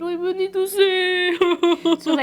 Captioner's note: cries